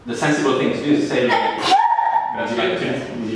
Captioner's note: girl sneezes